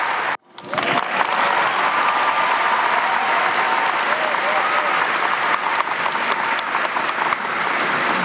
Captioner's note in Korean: 터져 나오는 응원의 박수